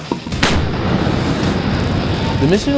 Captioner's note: intense rock music continues; weapon firing